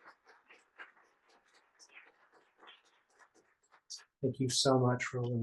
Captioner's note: applause